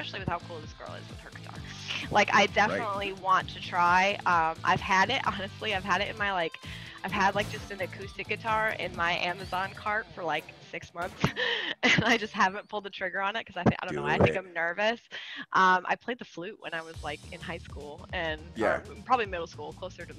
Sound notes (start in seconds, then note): 11.1 laugh